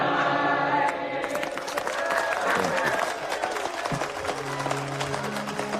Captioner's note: cheering and applause